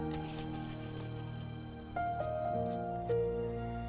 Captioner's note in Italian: ronzio udibile